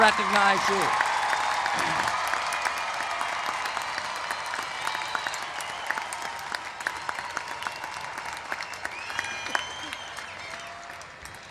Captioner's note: applause